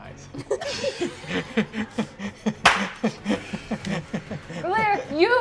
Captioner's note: cast laughing